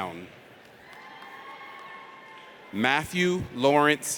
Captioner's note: audience cheers